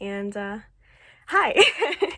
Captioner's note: laughs